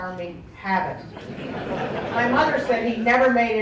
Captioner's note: laughter